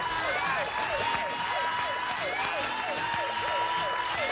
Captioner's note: alarm blaring